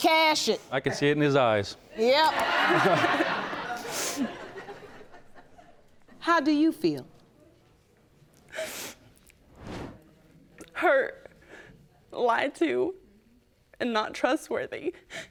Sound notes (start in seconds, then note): 2.6 laughing; 7.9 sobbing